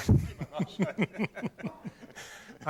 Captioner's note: laughter